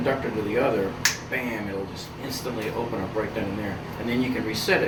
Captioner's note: snapping